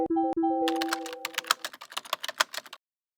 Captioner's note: typing; pop up sound